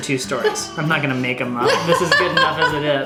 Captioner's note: laughing